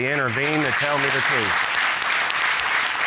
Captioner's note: applause